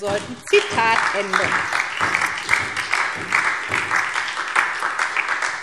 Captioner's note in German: Beifall SPD und DIE LINKE